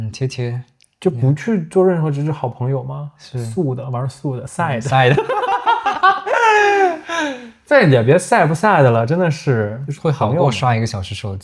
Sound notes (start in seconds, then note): 4.9 laughs